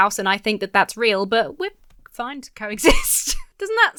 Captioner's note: laughs